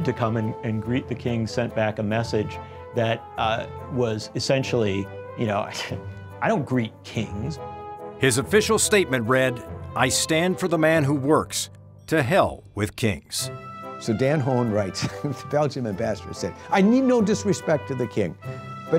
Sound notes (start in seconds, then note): 5.0 scoffs